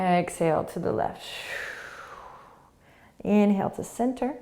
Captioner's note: exhaling